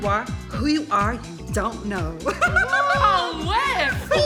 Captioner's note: chuckles